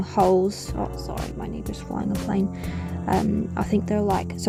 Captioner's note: loud plane noises